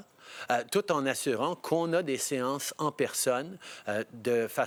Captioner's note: speaking French